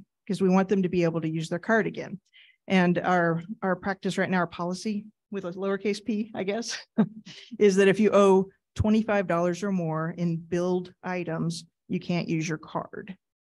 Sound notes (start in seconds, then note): 6.9 chuckling